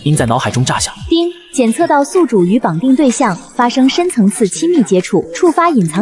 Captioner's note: ding!